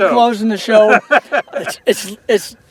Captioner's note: laughter